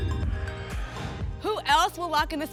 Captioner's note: whoosh